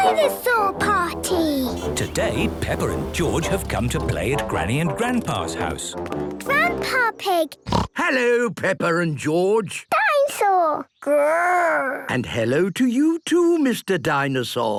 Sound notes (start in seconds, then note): 7.6 snorts